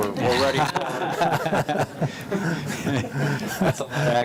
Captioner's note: group laughing